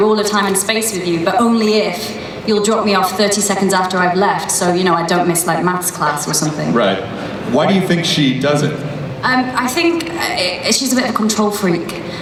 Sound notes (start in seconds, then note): 7.0 voiceover